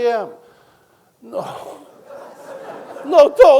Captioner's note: audience laughing